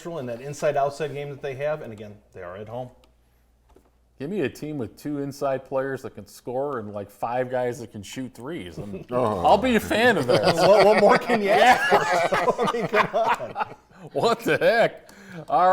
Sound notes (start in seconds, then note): 12.0 commentators laughing